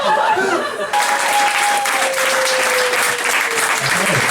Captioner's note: laughter; applause